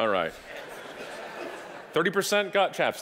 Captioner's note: audience laughing